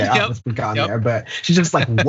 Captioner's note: laugh